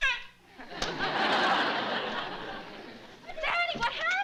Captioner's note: laughter